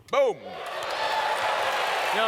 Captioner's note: audience cheers